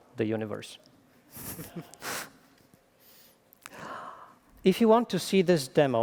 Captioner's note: laughing